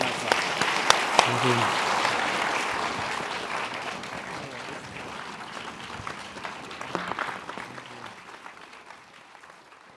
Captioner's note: applause